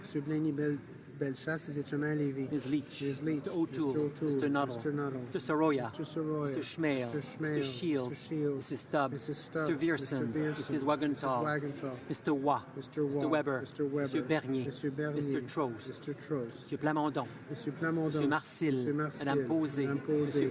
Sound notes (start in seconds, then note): 4.9 speaking in french